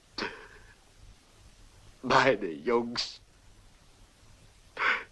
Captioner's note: sobbing